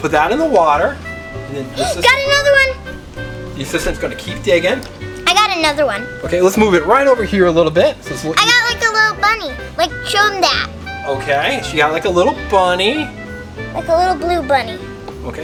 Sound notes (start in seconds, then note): 1.8 gasps